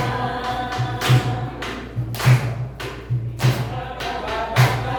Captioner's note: clapping with rhythm